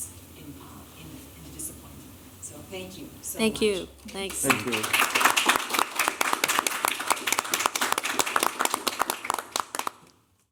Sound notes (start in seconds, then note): 4.1 applause